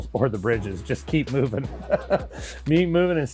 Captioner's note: laughs